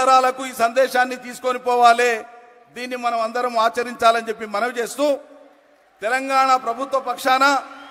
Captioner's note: cheering/Applause